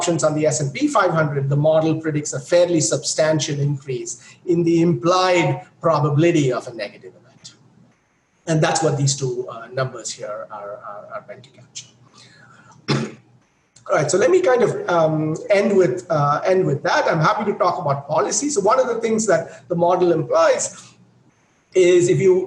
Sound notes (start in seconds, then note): 12.7 coughs